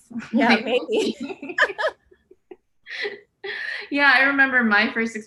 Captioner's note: laughs